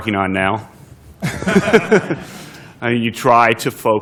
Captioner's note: laughter